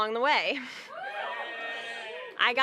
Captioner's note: cheers